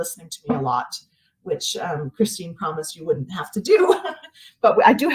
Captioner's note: laughs